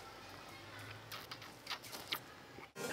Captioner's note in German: Genüssliche Geräusche